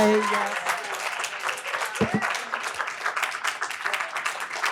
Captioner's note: audience applauds